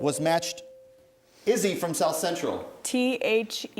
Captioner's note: ding